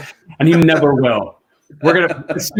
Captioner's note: laughs; laughing